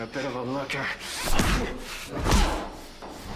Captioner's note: grunting